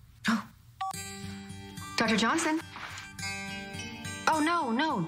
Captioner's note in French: cell phone rings